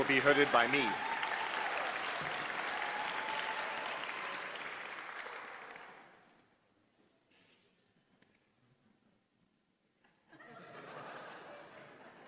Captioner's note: applause